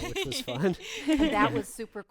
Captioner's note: group laughing